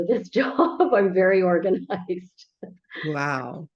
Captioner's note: laughs